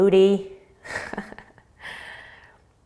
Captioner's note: laughing